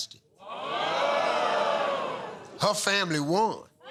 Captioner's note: audience "ohs"